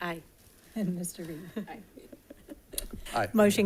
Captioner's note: board members giggling